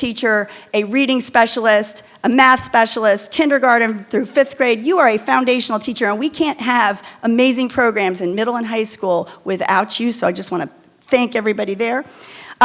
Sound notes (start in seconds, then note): none